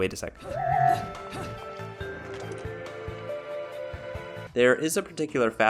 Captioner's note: ambient Bayonetta noises